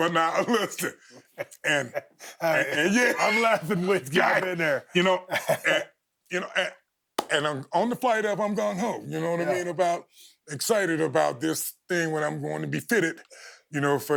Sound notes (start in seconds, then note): 2.8 laughing